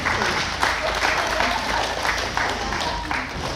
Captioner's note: clapping